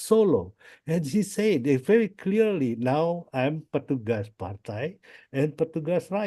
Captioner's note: foreign language